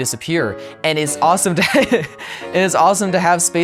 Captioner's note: laughs